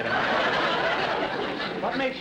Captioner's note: audience laughter